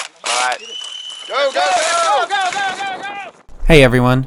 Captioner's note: whistle